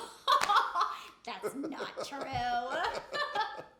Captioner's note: laughs